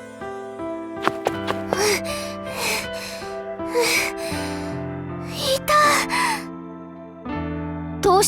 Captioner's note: out of breath